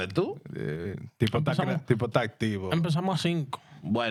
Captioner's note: speaking In Foreign Language